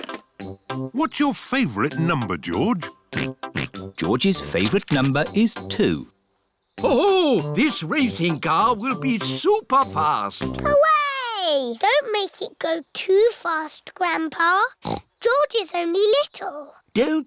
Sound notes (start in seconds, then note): 3.2 snorts; 14.8 snorts